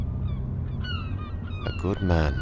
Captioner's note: sound of seagulls